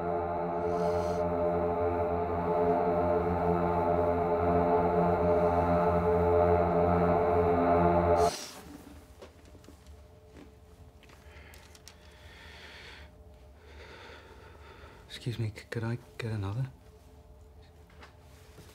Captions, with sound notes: (breathes in) (rumbling fades) - Excuse me, c-could I get another?